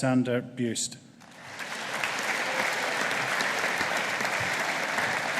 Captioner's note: audience applauding